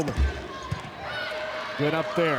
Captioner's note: ball thumping